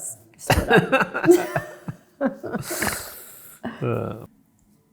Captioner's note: both chuckling